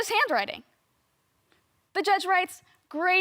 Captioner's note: silent